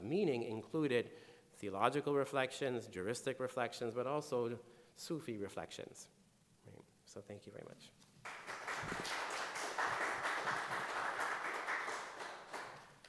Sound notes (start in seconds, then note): 8.2 audience applauding